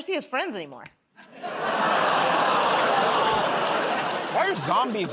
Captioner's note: laughter, groaning